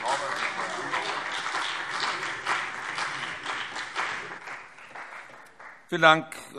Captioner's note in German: Beifall CDU und BÜNDNIS 90/DIE GRÜNEN